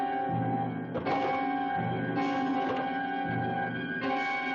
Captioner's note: door rattling